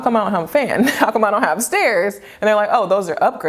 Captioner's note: chuckles